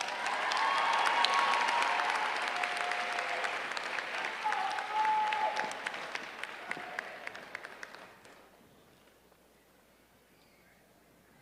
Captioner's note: applause